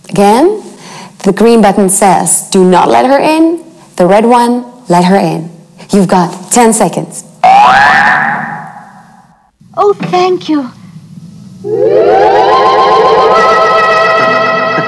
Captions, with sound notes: Again, the green button says, do not let her in, the red one let her in. You've got 10 seconds. (alarm rings) - Oh, thank you. (intense music)